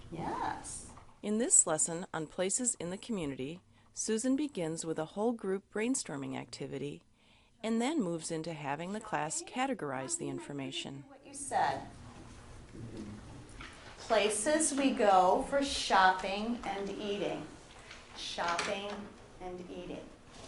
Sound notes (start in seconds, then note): 1.5 voiceover